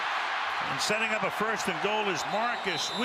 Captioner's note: cheers